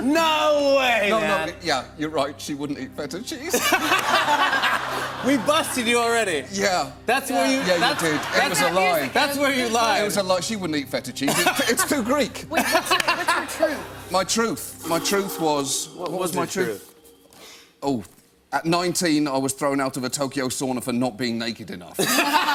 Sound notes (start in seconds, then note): 3.5 laughs